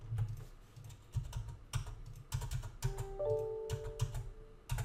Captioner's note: keyboard clacking